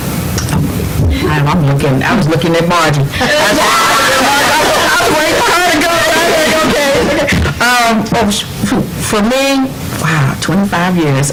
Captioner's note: laughter